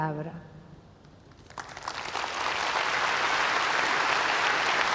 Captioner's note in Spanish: Aplausos